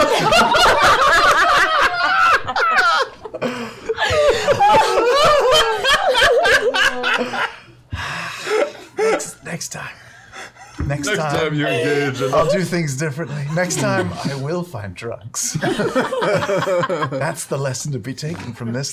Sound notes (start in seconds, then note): 0.0 laughter; 8.3 sighs